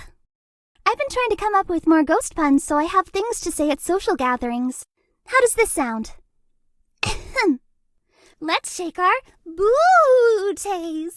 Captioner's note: ahem